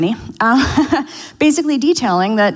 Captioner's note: laughs